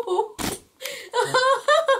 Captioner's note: fart-like sound